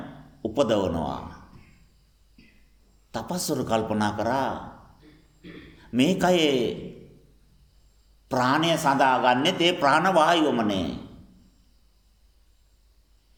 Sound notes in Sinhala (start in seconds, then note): 5.0 උගුර කෑරීම